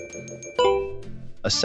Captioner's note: FX - Beep - 03